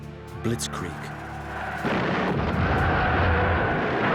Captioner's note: cheering; shooting cannons; explosion